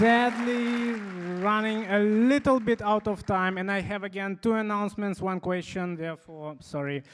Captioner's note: applause